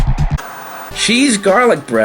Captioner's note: TV Static